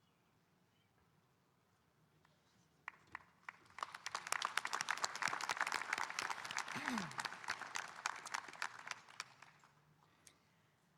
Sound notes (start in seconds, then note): 3.4 audience applauding